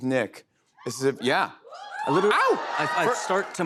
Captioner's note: scattered cheers